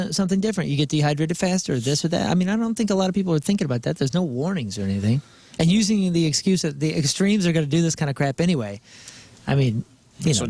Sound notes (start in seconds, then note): none